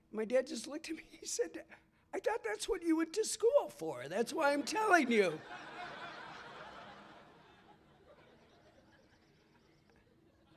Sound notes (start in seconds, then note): 4.5 laughter